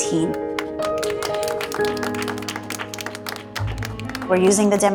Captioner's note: clapping